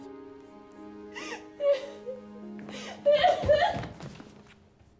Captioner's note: Eliza crying